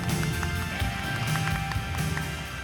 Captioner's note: applause